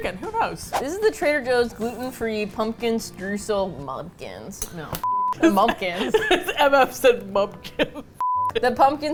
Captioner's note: laughs; both laugh